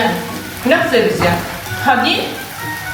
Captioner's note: Mixing French and Darija 😂